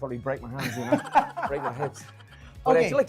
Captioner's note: laughter